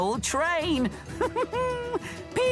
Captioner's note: thomas giggles